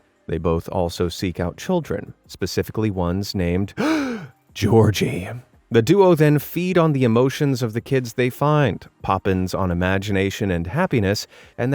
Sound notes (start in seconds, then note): 3.8 gasp